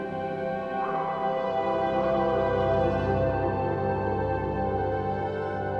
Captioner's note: mysterious music continues; dog barking in the distance